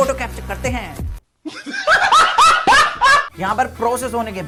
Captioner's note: laughs